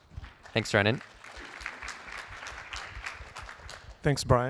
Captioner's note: applause